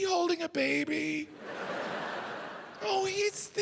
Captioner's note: audience laughing